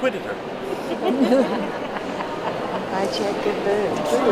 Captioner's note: audience laughs